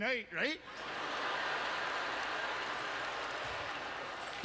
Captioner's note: audience laughter